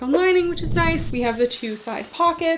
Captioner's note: screen whooshing